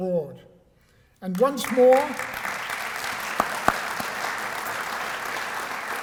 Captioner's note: applause